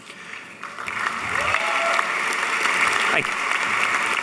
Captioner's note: applauding